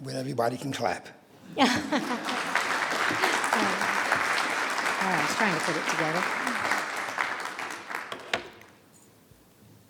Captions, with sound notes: This is the part where everybody can clap. (audience applauding)